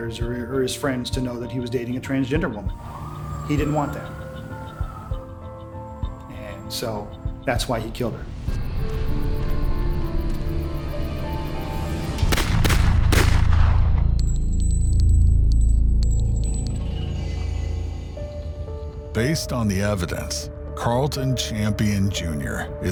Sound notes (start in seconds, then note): 12.2 gunshots blasting; 13.7 shell casings clinking